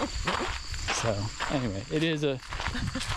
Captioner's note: laughs